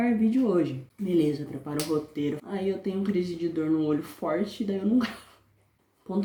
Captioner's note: laughs